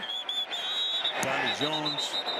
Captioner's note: whistle blows